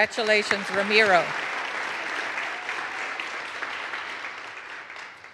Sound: audience applauds

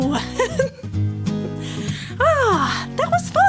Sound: laughing

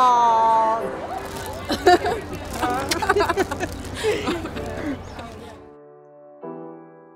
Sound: laugh

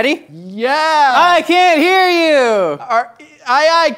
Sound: yelling

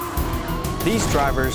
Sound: upbeat rock music; tires screeching

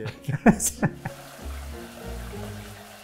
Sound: laughing

